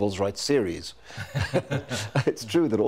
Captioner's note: both chuckling